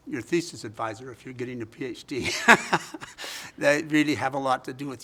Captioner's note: laughs